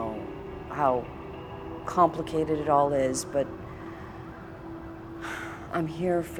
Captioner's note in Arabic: تنهدات